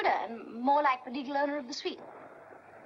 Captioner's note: none